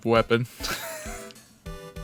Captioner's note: wheeze